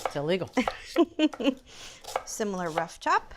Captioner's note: laughs